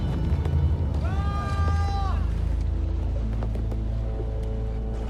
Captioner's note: man shouting